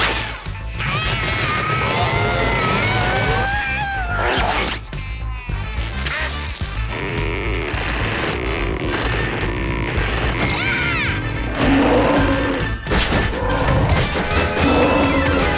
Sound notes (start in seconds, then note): 0.5 grunting; 10.6 roaring; 14.4 roaring